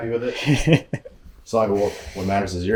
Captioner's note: presenter laughing